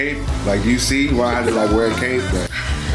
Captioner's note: laughs